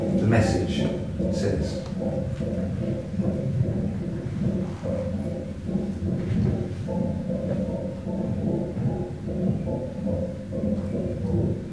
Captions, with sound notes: The message says. [rhythmical distant tapping]